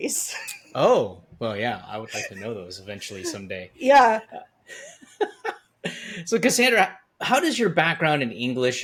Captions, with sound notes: Oh, well, yeah, I would like to know those eventually someday. Yeah. (laughs) So Cassandra, how does your background in English